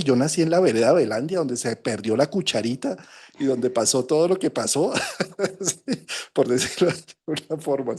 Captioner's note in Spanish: risas